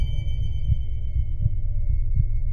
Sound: heart beating

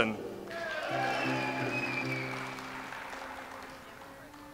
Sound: audience applauds

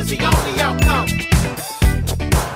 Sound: bell dings; upbeat music

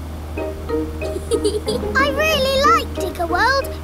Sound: george chuckling

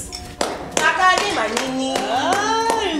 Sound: claps

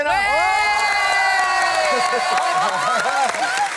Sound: cheering, applause

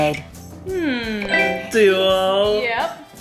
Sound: humming

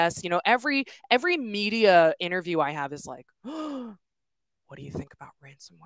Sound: gasps

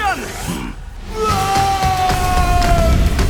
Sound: screams

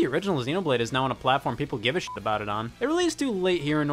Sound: beep

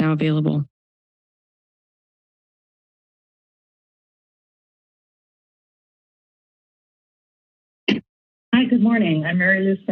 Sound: silence

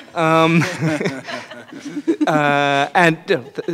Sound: laughing

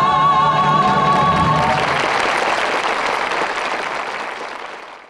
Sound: audience clapping

